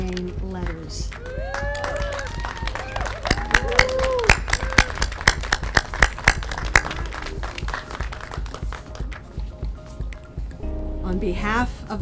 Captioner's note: applause